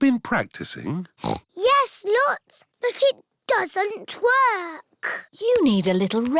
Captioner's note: snorts